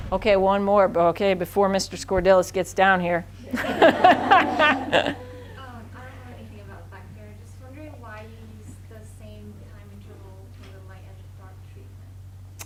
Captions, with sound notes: Okay one more but okay before Mr. Scordilis gets down here. (all laughing) (woman mumbling)